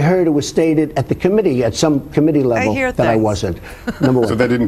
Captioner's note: sarcastic; laughs